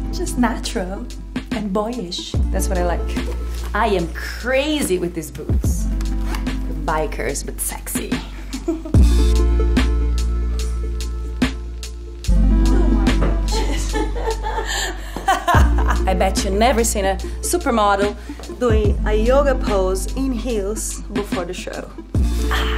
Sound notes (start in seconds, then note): 8.4 laughs; 9.7 upbeat music; 12.6 laughs; 22.5 upbeat music